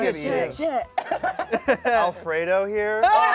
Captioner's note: everyone laughs